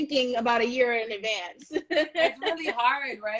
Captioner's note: laughs